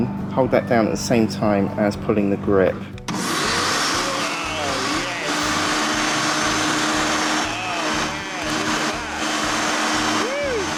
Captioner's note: flymo mower noise